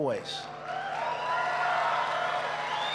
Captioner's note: applause